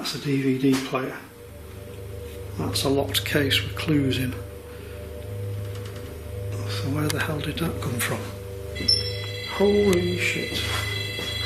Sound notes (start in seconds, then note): 9.1 beeping